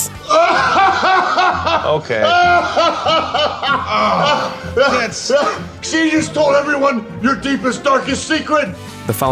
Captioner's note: laughing